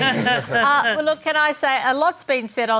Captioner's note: laughter